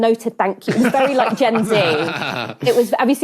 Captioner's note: laugh